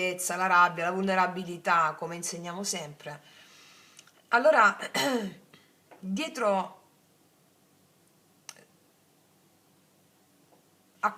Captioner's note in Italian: schiarire la voce